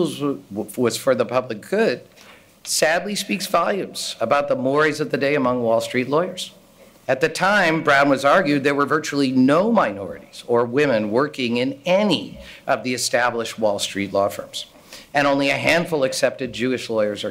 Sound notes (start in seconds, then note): none